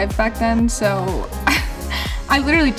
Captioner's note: laughing